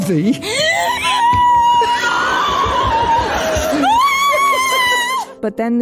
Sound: Beatrice starts shrieking and giggling

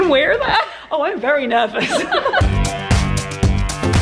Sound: upbeat music; laughs

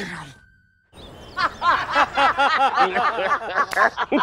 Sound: laughs

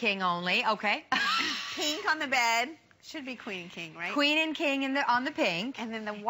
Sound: laughter

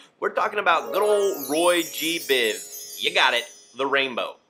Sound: chiming

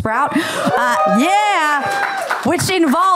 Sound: applause

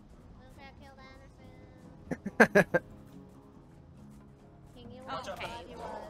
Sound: laughs

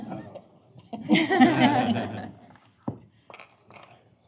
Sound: laughter

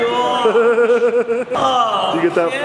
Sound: laughing

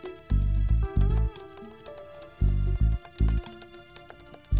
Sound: keyboard clicks

